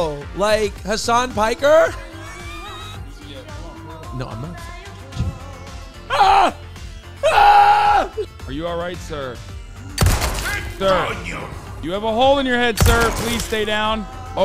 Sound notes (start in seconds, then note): 2.2 wheezing; 10.0 gunshot; 12.8 gunshot